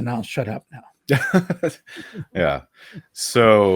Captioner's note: laughing